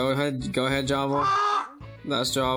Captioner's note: bird squeal